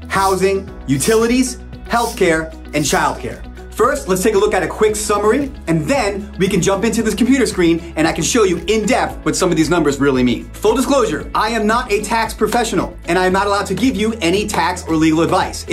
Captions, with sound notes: housing, (graphics swish) utilities, (graphics swish) healthcare, (graphics swish) and childcare. (graphics swish) First, let's take a look at a quick summary, and then, we can jump into this computer screen, and I can show you in depth what some of these numbers really mean. Full disclosure, I am not a tax professional. (hands tapping) And I am not allowed to give you any tax or legal advice.